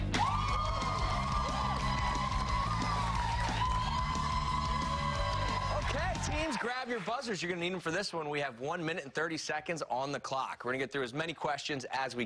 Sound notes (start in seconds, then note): 8.3 cheers and applause